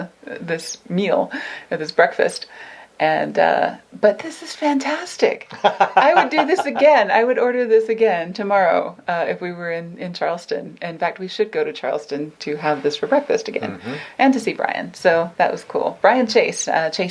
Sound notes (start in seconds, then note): 5.5 laughs